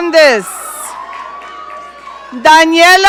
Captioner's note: audience cheering